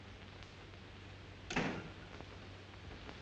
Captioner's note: door closes